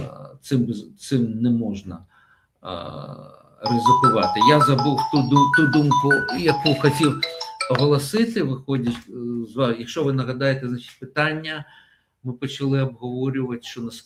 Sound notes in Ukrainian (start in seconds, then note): none